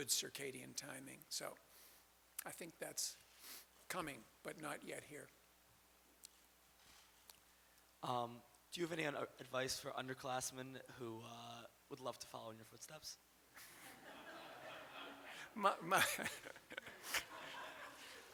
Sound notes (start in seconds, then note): 16.2 audience laughter